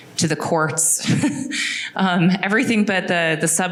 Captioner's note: laughing